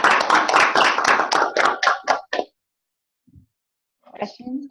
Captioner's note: clapping